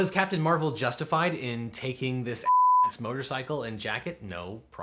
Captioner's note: beep